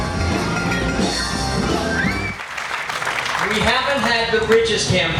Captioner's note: carnival music; applause